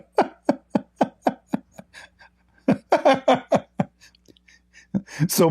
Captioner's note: Ketawa